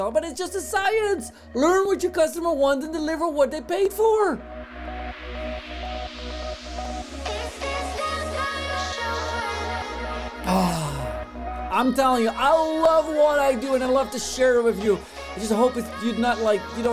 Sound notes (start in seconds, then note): 4.4 background upbeat music; 10.4 sighs